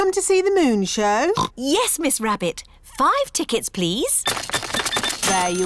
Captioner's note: oinks